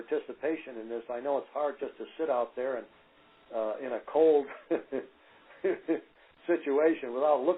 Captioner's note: laughter